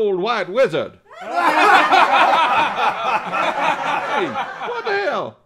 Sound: loud laughter

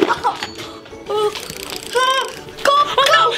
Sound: ice clattering; shivering

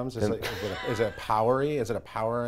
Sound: laughs

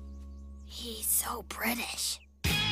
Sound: hoarsely

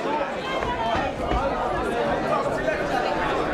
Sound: crowd talking

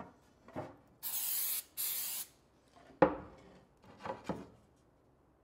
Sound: spraying paint

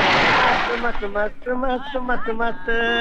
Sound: humming

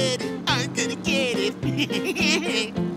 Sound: giggling

